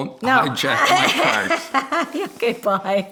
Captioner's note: laughing